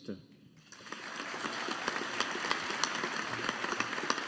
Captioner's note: audience applauding